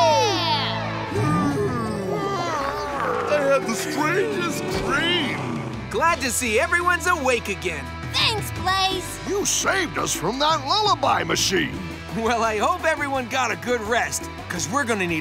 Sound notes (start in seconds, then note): 0.5 yawning